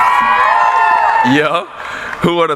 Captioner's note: cheering